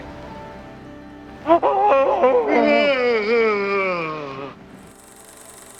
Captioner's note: screams in Terror